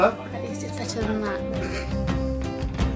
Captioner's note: giggles